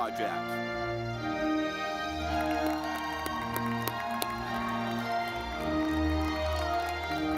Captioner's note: audience clapping